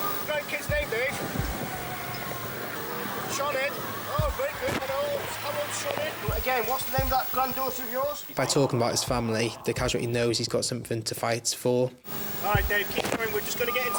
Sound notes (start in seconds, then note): 2.6 speaking faintly